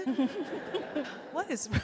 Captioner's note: audience laughs